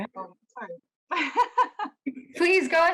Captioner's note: laughs